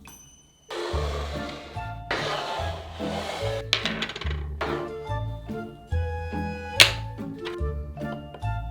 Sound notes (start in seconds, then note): 0.7 bowl sliding